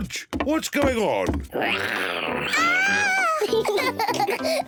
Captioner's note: roars; both giggle